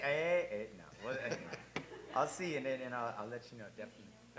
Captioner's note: laugh